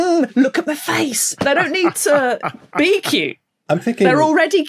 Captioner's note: laughs